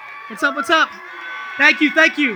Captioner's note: audience cheers